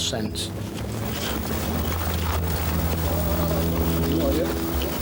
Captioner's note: clothes rustling